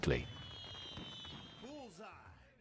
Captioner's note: fireworks popping